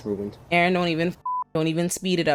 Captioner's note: beep